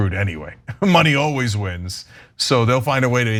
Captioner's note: laugh